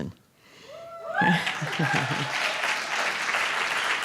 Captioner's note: applausse